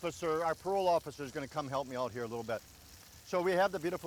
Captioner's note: grill sizzling